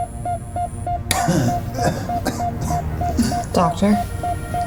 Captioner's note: Miles coughs